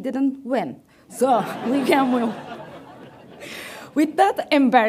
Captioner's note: audience laughs